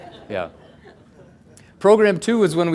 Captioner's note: audience laughs